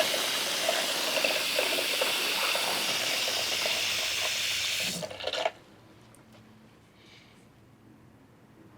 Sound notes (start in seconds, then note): 0.7 water rushing